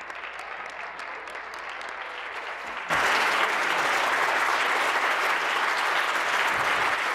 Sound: applause; continued applause

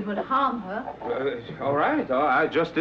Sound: stammers

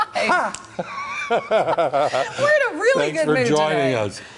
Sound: laughter

